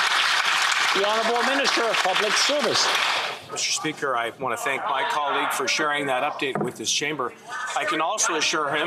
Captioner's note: some Applause